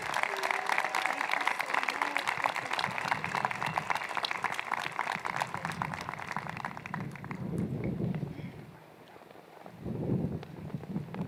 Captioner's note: applause